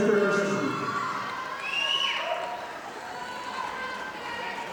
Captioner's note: audience applauding